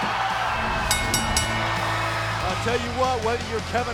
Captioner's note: crowd cheering; bell ringing